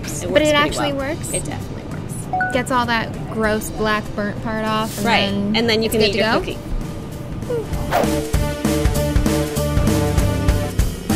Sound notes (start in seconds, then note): 2.4 chiming; 7.7 energetic music